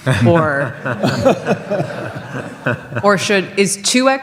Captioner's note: audience laughs